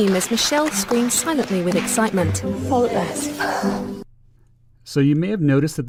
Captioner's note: contestants applauding; sigh